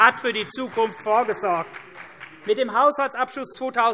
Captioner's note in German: Beifall CDU - Zuruf SPD